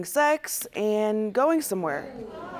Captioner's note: audience groaning